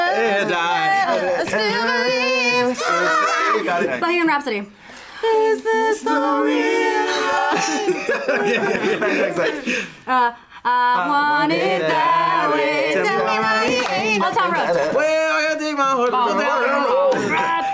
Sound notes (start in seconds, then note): 6.8 group laughs